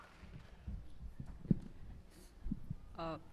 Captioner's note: applause